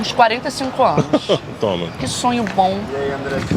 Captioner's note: laughs